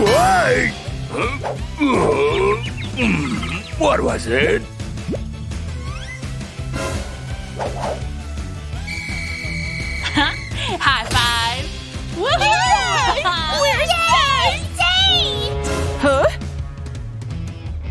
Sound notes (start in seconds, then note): 12.1 cheering, shouting